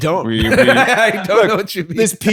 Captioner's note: laughs